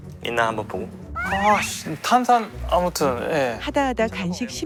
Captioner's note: grumbling off